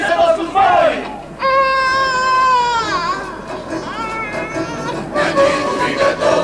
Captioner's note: πάλι κλάμα μωρού